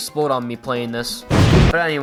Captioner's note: explosion